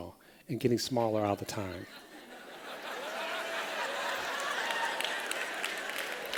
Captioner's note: laughter